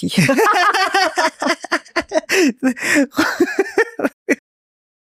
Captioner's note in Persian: خنده